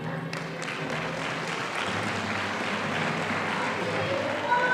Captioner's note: audience applauding